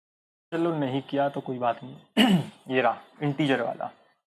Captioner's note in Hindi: गला साफ़ करने की आवाज़